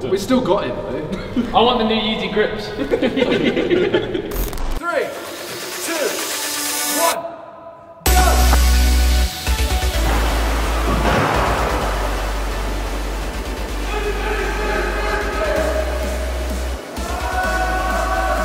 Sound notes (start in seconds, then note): 2.7 laughter; 8.7 electronic music